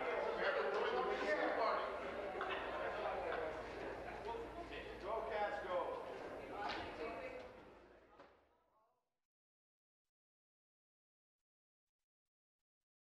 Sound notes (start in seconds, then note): 3.1 conversation din